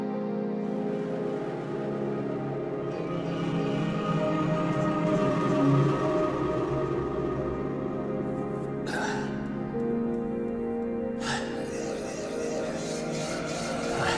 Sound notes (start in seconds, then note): 0.8 hunters screaming in the distance; 8.7 Wanderer breathing